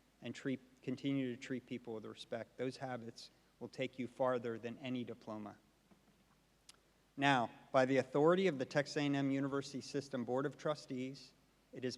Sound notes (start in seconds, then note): none